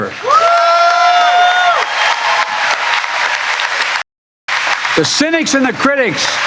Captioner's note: cheering and applause